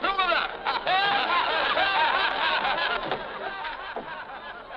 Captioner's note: people laughing